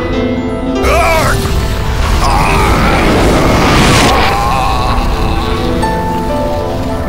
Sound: Melbu screaming in agony

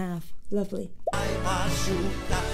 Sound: audio pops; sings in Portuguese

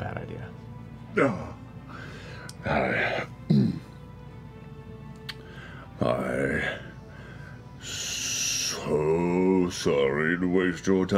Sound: sighs

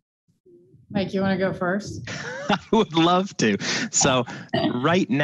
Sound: chuckles

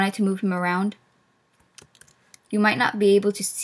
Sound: clicking ASMR

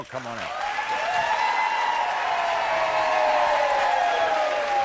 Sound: audience applauds

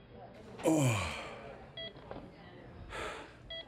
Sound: groaning

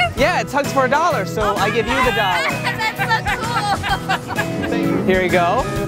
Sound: laughs

